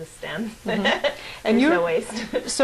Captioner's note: laughs